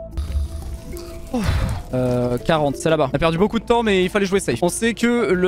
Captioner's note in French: soupir de soulagement quand le ghast meurt